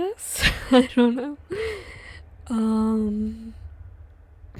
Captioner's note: laughs